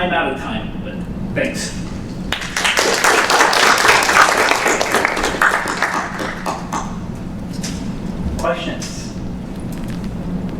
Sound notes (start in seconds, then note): 2.3 applause